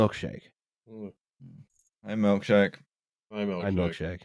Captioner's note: faint purring